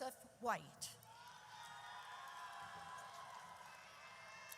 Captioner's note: audience cheers